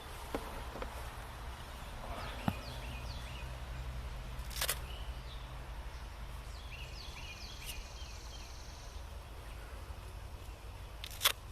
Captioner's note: birds chirping